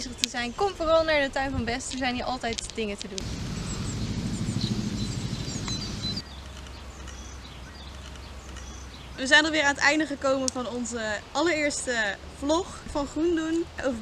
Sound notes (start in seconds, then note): 3.2 nature sounds